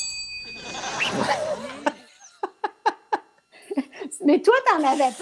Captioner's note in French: ding!; rires